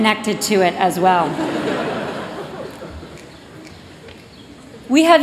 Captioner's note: laughter